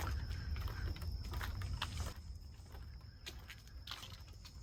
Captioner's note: footsteps tapping